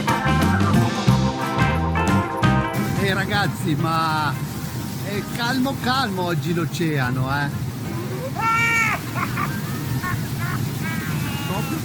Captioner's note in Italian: Risate